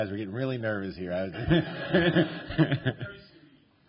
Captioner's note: laughter